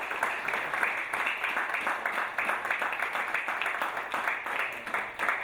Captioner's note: audience applauding